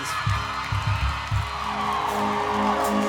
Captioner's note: applause